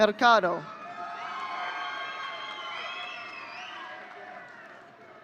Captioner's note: audience cheering